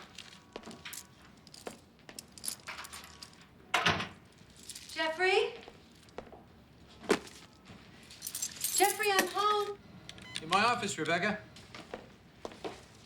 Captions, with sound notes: (door clanks) - Jeffrey? Jeffrey, I'm home. - In my office, Rebecca.